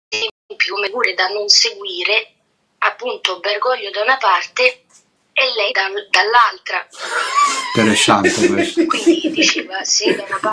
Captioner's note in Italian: risate